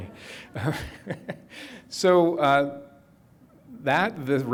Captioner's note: chuckles